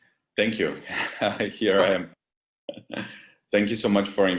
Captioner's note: laugh